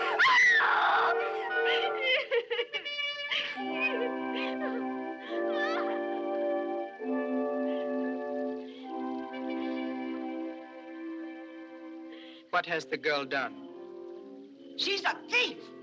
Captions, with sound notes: [ Screams ] [ Crying Continues ] - What has the girl done? - She's a thief!